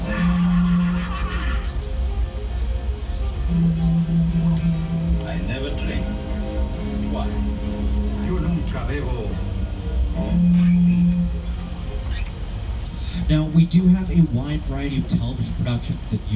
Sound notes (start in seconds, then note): 0.0 Renfield laughing; 8.5 Dracula speaking Spanish